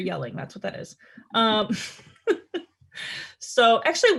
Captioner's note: laughs